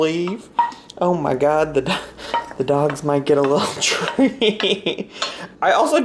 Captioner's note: laughs